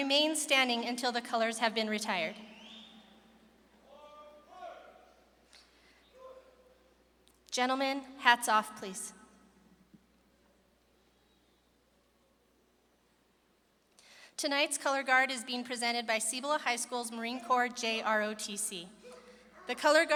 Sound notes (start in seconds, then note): 6.4 shouts